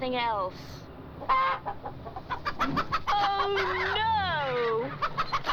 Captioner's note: chickens Clucking